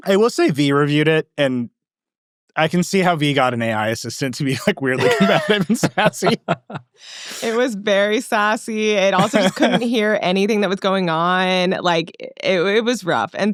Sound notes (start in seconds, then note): 6.5 laughing